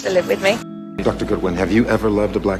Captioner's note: voiceover